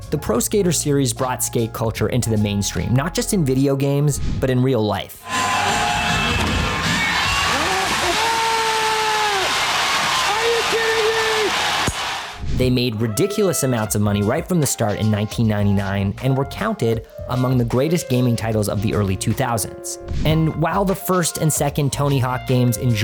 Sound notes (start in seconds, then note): 5.2 cheering